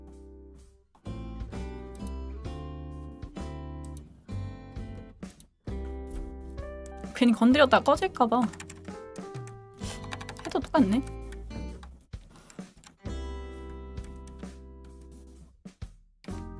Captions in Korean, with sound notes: 괜히 건드렸다가 꺼질까 봐. [콧방귀] 해도 똑같네.